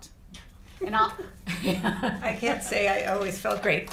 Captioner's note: chuckles